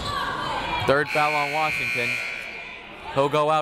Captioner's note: buzzer